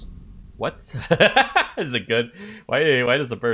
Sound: laughter at silly thing

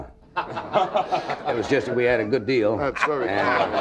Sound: audience laughing

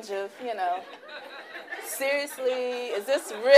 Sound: laughing

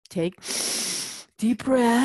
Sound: inhale

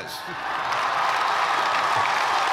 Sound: cheers and applause

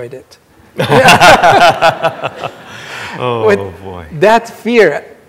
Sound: everyone laughing

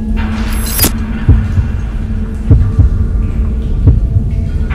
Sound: pounding heartbeats

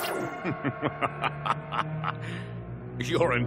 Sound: laughing

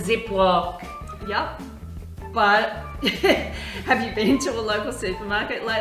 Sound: laughs

